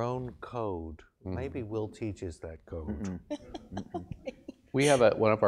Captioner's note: laugh